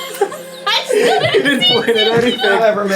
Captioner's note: laughing